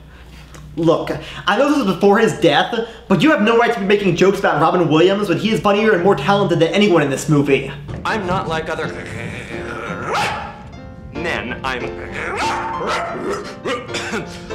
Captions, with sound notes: Look, I know this was before his death, but you have no right to be making jokes about Robin Williams when he is funnier and more talented than anyone in this movie! I’m not like other— [Growls and barks] —men, I’m— [Growls and barks]